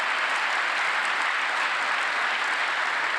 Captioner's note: applause